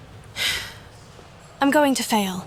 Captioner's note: sigh